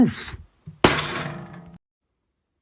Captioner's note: clang!